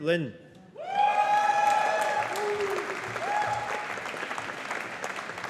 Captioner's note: audience applauding